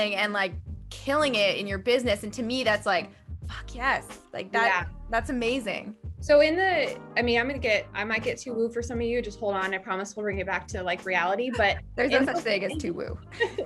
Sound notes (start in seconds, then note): 11.5 laugh